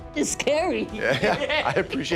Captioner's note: laughs